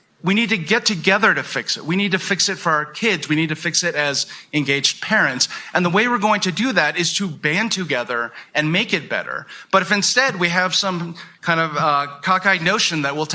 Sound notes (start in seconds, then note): none